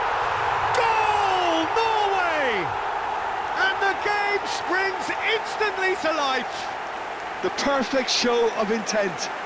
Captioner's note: screaming and cheering